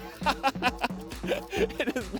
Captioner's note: laughter